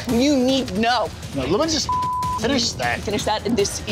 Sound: beep

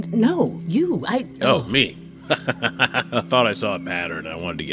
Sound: laughs

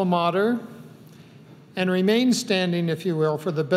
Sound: none

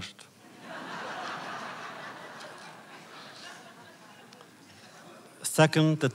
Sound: laughter

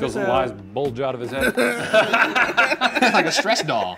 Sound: all laughing

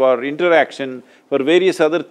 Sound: none

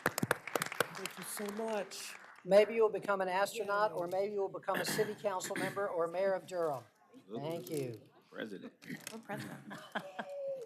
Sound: applause

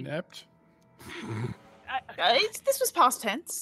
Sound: snickers

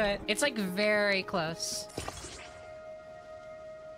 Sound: none

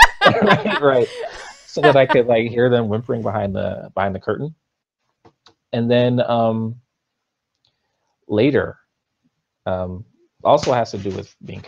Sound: laughs

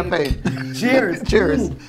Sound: glasses clink

